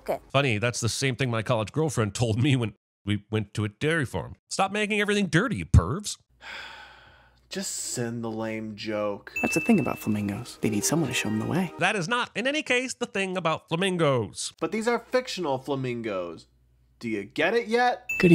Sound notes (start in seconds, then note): 6.4 sigh